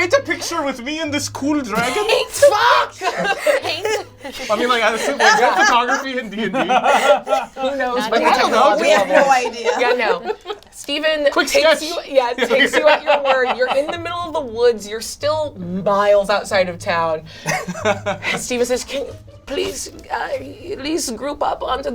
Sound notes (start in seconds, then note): 8.1 overlapping chatter